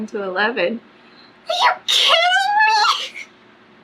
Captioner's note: laughs